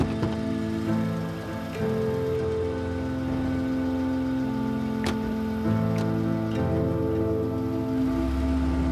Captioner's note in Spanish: sonido de motor